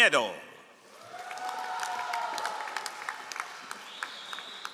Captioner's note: all applauding